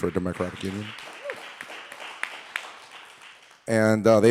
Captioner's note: audience applauding